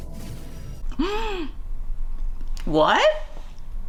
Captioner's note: gasps